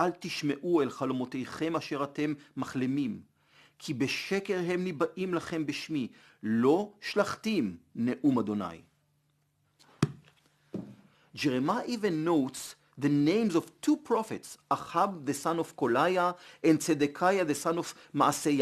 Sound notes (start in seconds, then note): 7.2 Hebrew